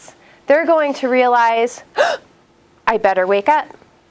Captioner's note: gasp